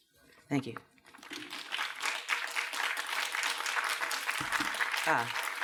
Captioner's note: applause